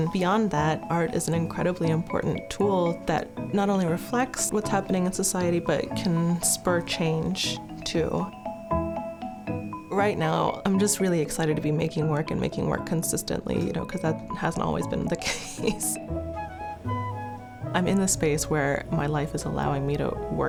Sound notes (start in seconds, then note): 8.4 bright playful music; 15.2 laughs